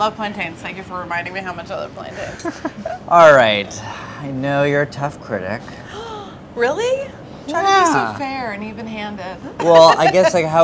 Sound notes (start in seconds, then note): 6.0 gasps